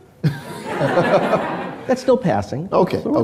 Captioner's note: crowd laughing